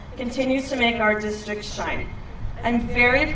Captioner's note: none